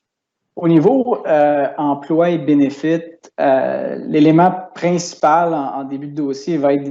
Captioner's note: speaking in foreign language